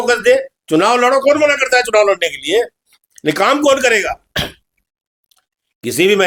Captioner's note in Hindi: गला साफ़ करने की आवाज़